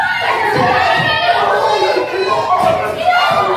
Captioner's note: screaming